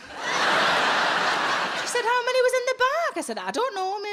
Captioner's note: audience laughs